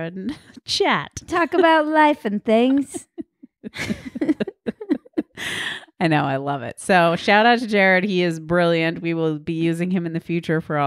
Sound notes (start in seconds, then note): 2.7 laughing